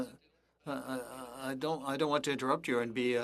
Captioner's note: speaking French